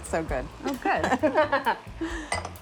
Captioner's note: laughter